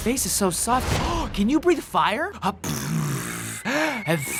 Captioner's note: gasps; imitates breathing fire